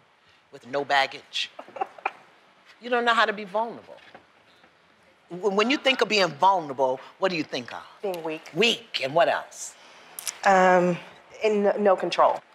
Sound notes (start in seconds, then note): 1.5 laughs